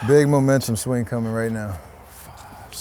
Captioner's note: none